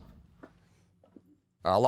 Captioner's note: door closing sound